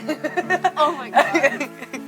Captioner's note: both laugh